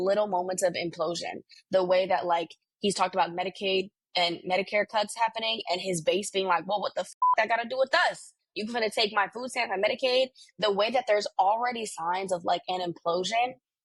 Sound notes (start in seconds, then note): 7.1 beep